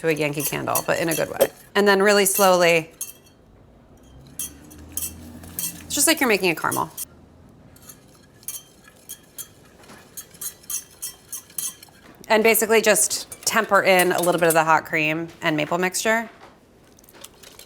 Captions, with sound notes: a Yankee Candle, but in a good way. And then really slowly, it's just like you're making a caramel. (whisk rings against pan) And basically just temper in a little bit of the hot cream and maple mixture.